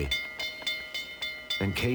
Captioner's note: train bell clanging